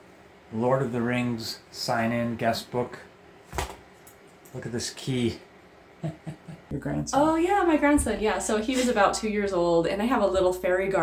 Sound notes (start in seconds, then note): 3.5 thump; 6.0 chuckles